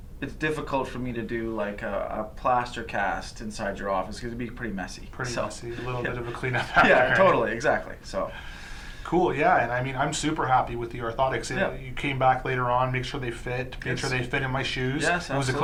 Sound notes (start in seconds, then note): 6.9 laughs